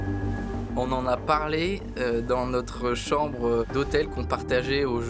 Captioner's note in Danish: på fransk